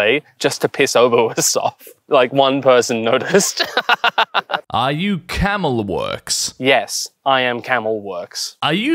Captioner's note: villainous cackle